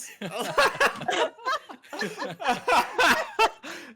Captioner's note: all laughing